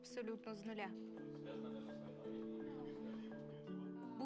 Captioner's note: team chattering